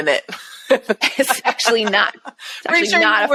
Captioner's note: chuckling